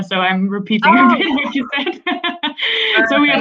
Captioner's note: laughter